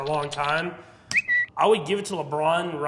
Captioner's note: bird chirping